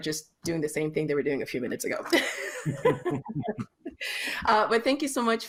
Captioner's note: laughter